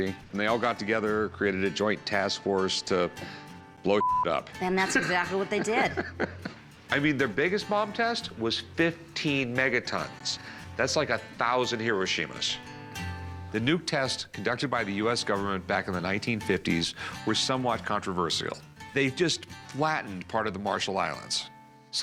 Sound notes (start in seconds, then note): 4.7 laughing